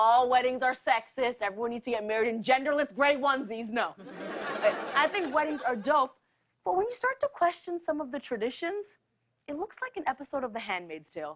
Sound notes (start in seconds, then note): 4.0 laughter